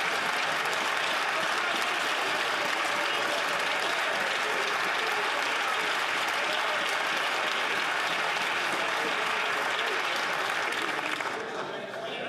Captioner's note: cheers & Applause